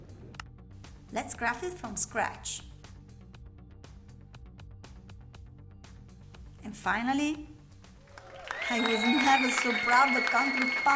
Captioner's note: applause